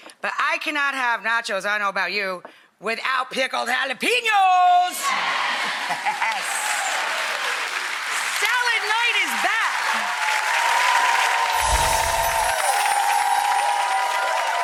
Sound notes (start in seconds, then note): 5.1 audience cheers; 10.4 audience applauding